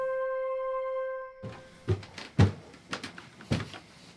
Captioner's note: sound of somebody walking up stairs